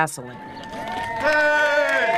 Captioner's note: crowd cheering